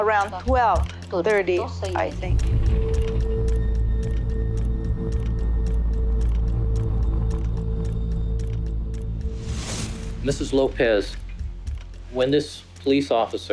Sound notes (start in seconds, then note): 2.0 speaking Spanish